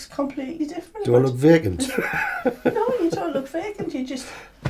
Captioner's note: laughs